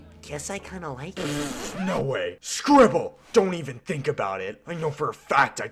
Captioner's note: spits